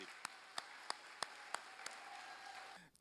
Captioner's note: applause